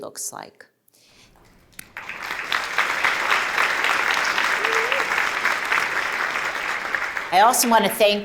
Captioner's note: applause